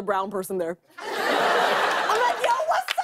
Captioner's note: laughter